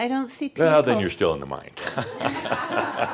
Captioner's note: laughter